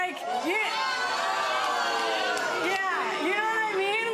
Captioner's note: audience gasps